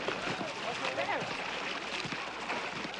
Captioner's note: indistinct chatter